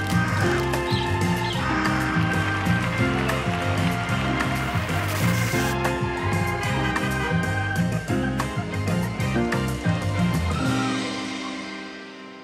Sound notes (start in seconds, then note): 0.0 cat meowing; 0.3 birds chirping and crowing; 2.3 audience applauding; 5.2 car horn honks